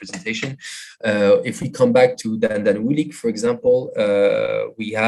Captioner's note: non-english